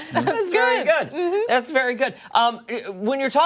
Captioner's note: laughter